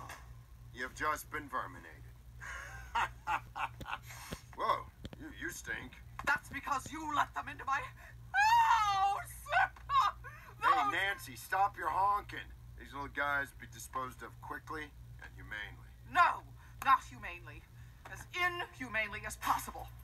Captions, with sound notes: You've just been verminated. [laughing] [sniffing] Whoa! You stink. That's because you let them into my... house! - Those... - Hey, Nancy, stop your honkin'. These little guys will be disposed of quickly and humanely. No. Not humanely. As inhumanely as possible.